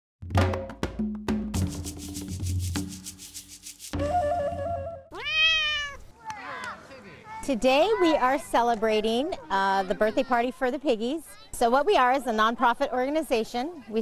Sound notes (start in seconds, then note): 0.2 upbeat drum music; 5.1 cat meowing; 5.1 owl screeching